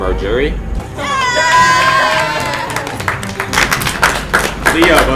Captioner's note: cheering